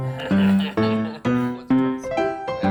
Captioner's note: person laughing; chill music